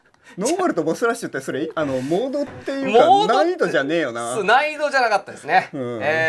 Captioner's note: laugh